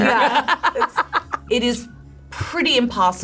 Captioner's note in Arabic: تضحك